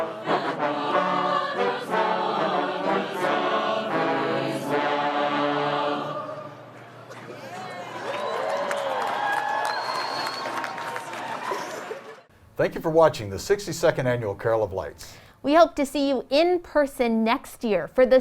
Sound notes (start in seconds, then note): 7.0 crowd cheering and clapping